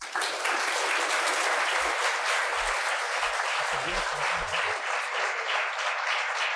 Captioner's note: applause